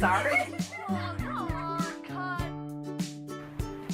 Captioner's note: giggling